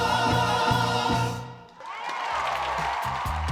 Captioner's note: applause